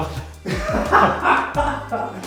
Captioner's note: laughter